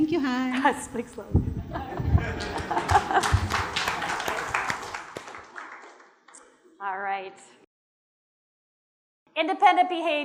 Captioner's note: laughter/applause